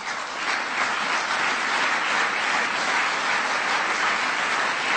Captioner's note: applause